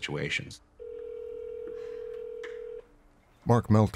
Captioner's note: phone calling out